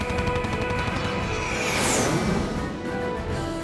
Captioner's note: engines whining